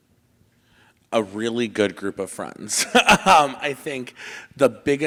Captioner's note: laughs